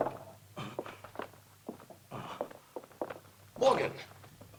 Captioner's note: Morgan gasping